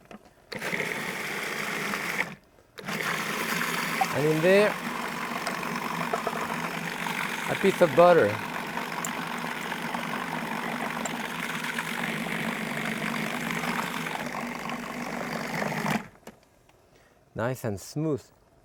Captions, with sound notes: (food processor whirring) And in there, a piece of butter. (food processor whirring continues) Nice and smooth.